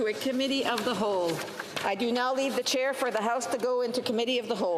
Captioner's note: speaking French